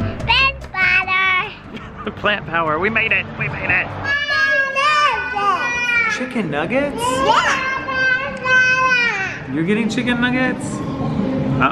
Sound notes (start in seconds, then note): 6.9 babbling